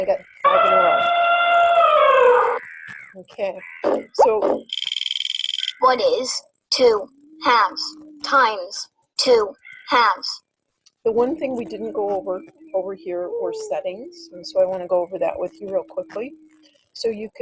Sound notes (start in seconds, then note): 0.4 elephant trumpeting; 4.6 wheel clicking; 6.1 voiceover